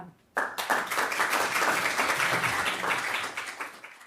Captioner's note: attendees applauding